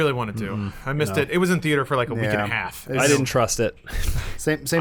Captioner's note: laughs